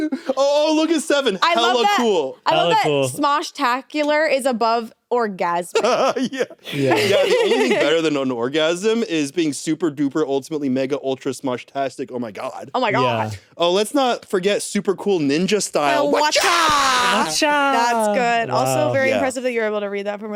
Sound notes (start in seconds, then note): 5.7 laughs; 5.7 giggles